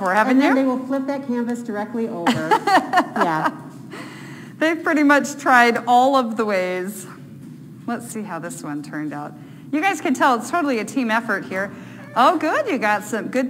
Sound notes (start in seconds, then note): 2.3 laughing